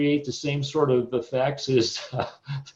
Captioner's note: chuckles